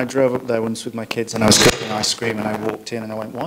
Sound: microphone hisses

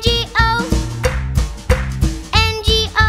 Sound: clap

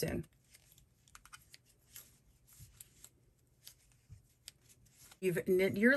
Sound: knitting needles clicking together

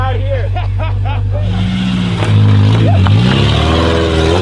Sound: laughing; engine revving

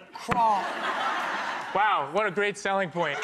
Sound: audience laughter

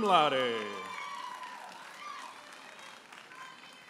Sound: audience applauding and cheering

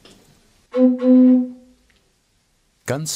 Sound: dark whistle

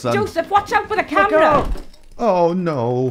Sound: sound of the camera falling

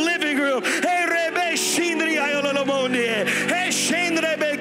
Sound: speaking in tongues

